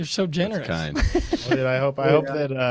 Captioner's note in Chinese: 笑声